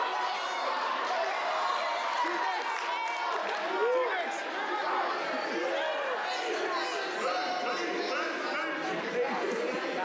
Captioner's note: applause